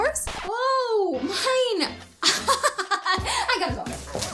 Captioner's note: laughs